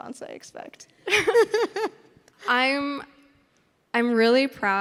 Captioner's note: interviewer laughing